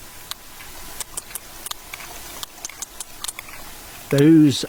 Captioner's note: whale clicking